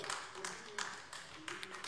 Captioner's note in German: Beifall AfD